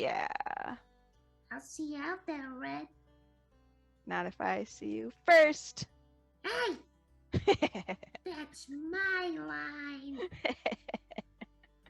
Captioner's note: laughing